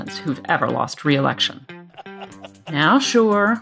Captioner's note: laughing